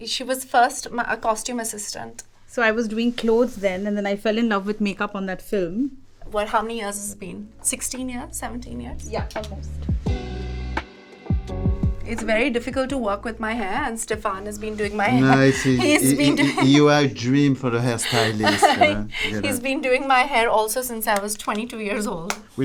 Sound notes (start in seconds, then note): 9.8 upbeat music; 15.0 laughing